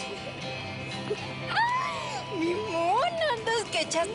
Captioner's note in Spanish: Ríe